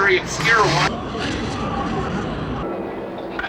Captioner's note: wind blowing